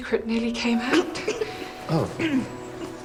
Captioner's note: coughs